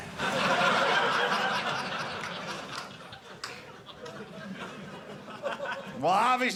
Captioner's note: audience laughing